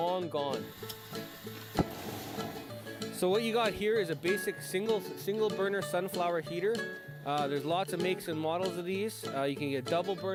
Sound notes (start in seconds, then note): 0.7 flicks lighter flint; 1.7 whoosh